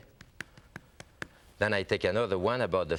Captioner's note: tapping sound